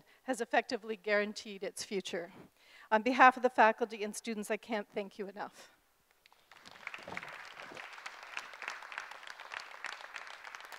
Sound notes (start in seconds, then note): 6.2 group applauding